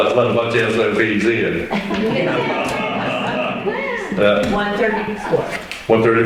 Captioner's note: laughter